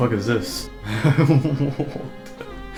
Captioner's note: chuckling